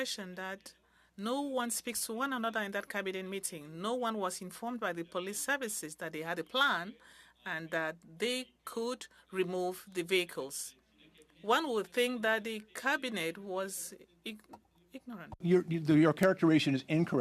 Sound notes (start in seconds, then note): 3.9 speaking French